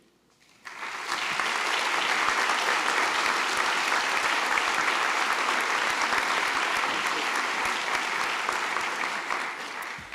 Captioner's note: applause